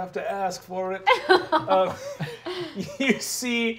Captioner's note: laughing